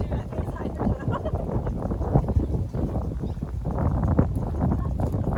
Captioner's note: indistinct chatter